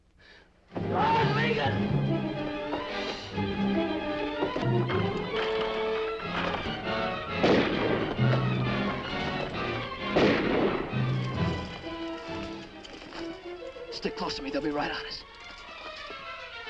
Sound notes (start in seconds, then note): 2.6 dramatic music; 7.0 gun firing; 11.2 dramatic music